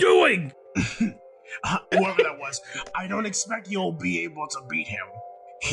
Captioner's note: cough